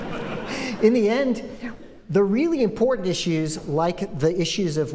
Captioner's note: laughter